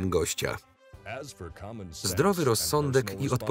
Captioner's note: voiceover